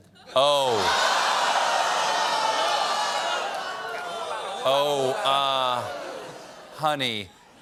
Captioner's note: audience reacts